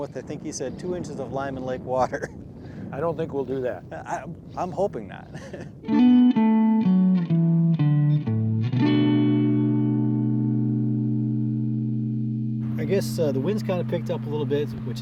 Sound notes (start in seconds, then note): 5.2 laughs; 5.8 calm instrumental music